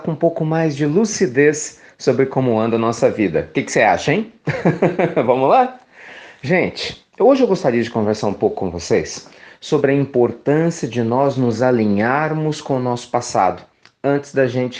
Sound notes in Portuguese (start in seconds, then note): 4.4 risos